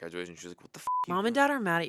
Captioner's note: beep